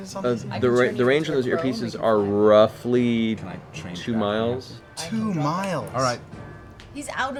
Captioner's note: none